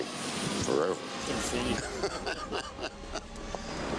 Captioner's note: laughs